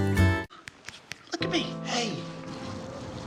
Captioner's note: snap,snap, snap